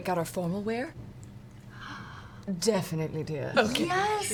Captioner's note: gasps